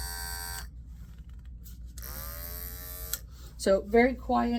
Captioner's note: quiet buzzing